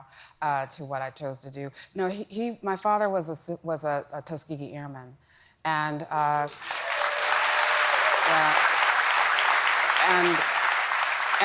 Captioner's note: applause